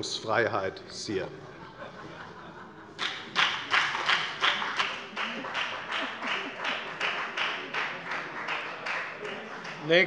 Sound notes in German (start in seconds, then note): 4.9 Heiterkeit und Beifall bei der FDP